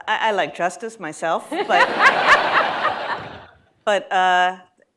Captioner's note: laughter